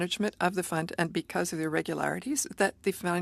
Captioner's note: speaking French